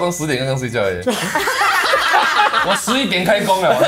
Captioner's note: laughs